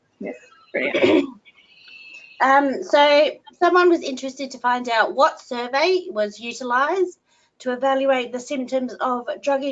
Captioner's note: clears throat